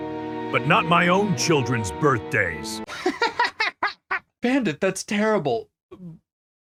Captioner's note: laughter